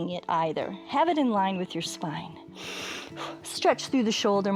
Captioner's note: inhales